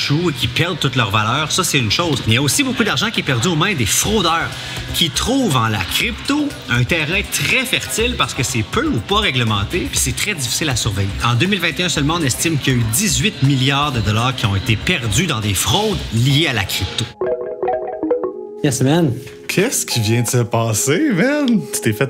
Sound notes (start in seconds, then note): 17.1 notification